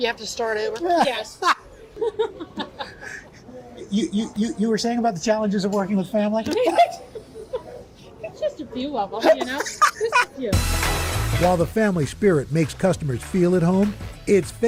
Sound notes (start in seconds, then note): 9.2 laughter